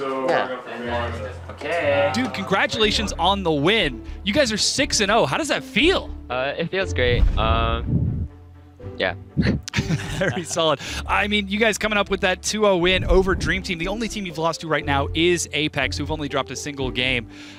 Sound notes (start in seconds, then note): 9.4 laughs